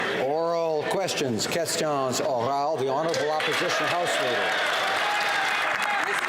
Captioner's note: applause; some Applause